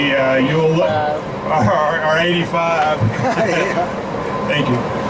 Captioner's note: laughing